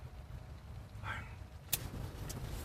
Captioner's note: sighs